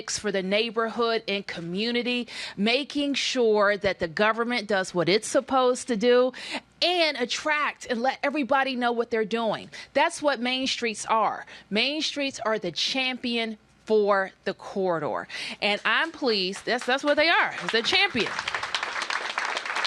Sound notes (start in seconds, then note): 16.5 applause